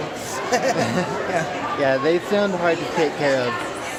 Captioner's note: laughter